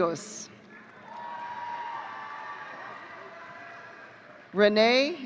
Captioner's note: audience cheering